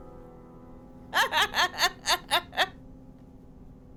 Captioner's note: laughter